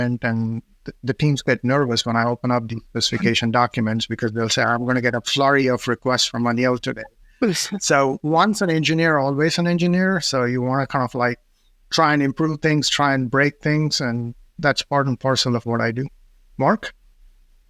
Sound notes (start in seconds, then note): 7.4 chuckles